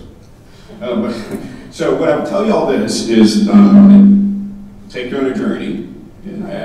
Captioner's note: laughing